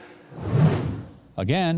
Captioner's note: air whooshing